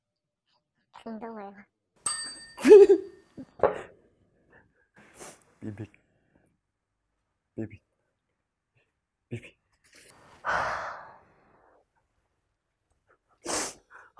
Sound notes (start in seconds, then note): 2.6 he couldn't resist laughing